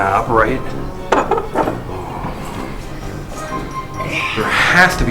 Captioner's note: rusty doorknob squeaks